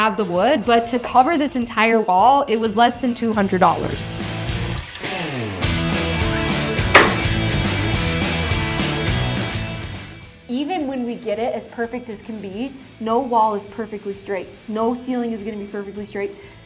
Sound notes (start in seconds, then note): 3.8 nail gun popping; 3.8 upbeat music continues